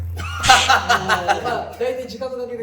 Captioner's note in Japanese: 笑い声